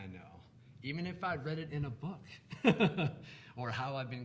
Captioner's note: laughs